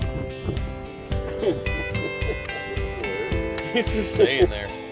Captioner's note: laughter